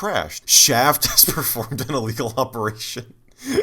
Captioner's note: laughing